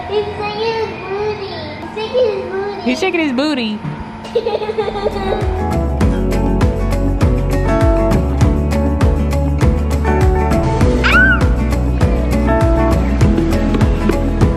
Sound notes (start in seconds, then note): 4.3 laughing; 6.2 upbeat music; 11.0 screaming